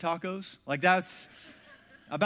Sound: congregation laughs

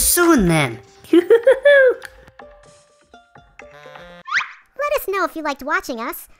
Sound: Dr. McTinker laughs

